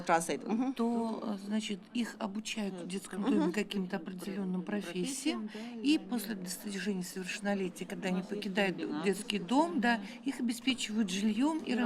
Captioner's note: speaking russian